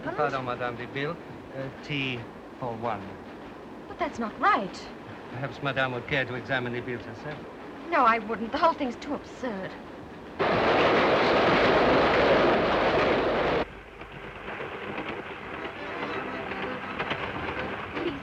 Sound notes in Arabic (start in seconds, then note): 10.6 هدير القطار; 13.6 صوت خشخشة القطار; 15.5 تلعب الموسيقى الشعبية